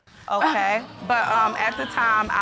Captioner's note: audience exclaiming